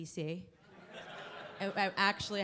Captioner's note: laughing